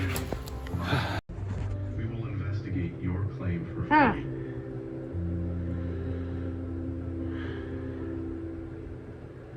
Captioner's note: TV plays in background